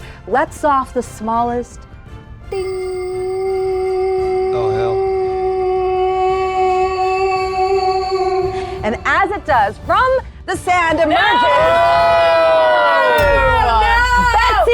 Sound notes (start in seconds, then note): 5.6 humming; 11.9 players shrieking